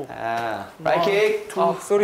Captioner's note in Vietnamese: Pow!